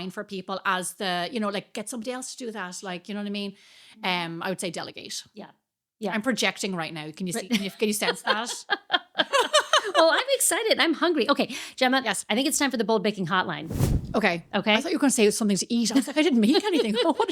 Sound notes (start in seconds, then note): 9.6 laughing